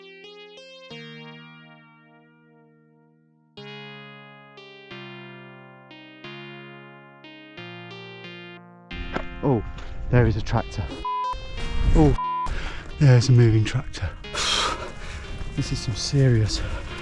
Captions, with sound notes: oh! there is a tractor (beep) oh (beep) there’s a moving tractor this is some serious